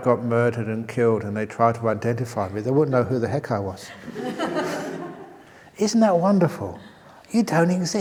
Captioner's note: laughter